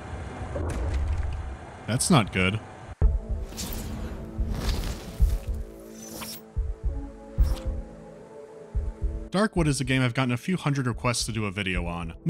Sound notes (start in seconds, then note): 0.7 whack